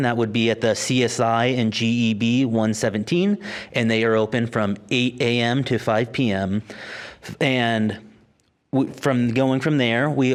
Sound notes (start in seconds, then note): none